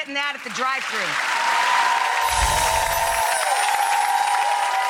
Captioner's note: applause